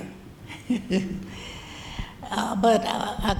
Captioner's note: laughs